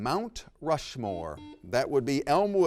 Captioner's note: buzzer rings